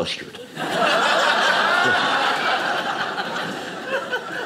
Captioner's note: audience laughing